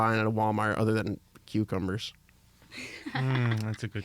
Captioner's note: laughs